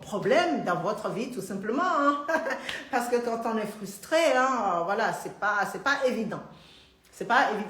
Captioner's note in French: Rires